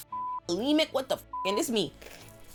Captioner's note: beep